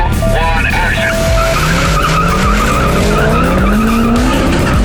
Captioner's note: tires screeching